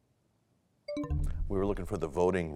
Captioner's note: bell chimes, time expires